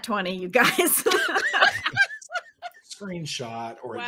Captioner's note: ladies laughing